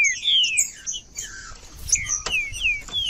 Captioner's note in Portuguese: trinca ferro cantando